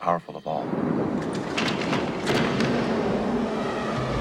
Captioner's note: gusting winds